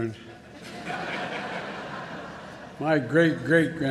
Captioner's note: laughter